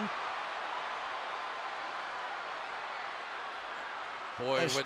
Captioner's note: cheering